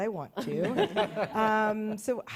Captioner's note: laughter